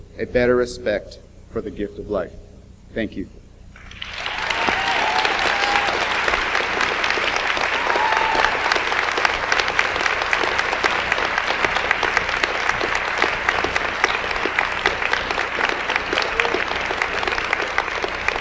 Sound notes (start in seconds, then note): 4.0 audience applauds